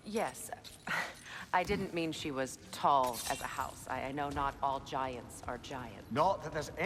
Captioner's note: laugh